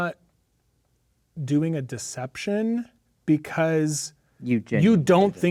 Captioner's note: speaking quietly